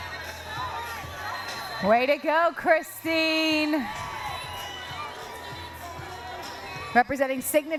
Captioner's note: cheering